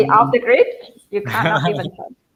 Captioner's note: laughter